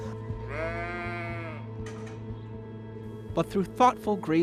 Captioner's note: sheep baaing